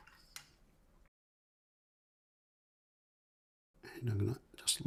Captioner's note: silence